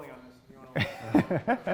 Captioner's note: laughs